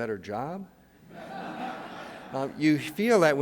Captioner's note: audience laughing